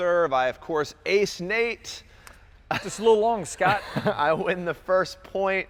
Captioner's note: laughs